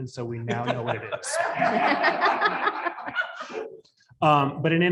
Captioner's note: audience laughs